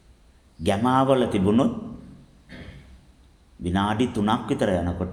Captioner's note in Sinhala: උගුර කෑරීම